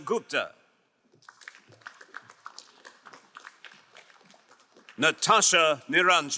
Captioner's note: crowd applauding